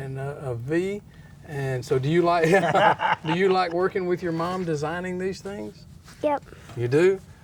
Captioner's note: laughter